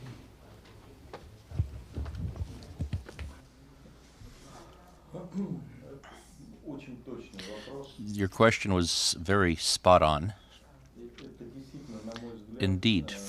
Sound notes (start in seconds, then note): 3.3 through translator